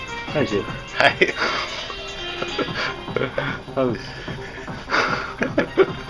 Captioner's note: laughs